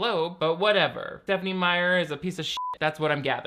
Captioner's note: beep